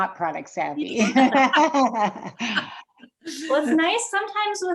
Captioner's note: group laughs